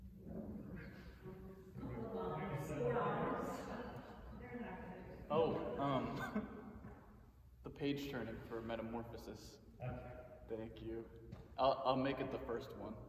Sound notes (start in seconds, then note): 5.8 laughs